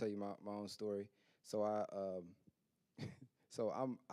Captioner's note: chuckles